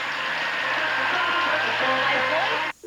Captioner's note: audience applauding